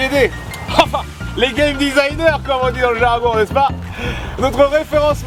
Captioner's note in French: Rires